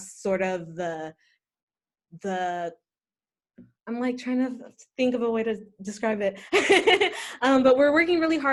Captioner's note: laughter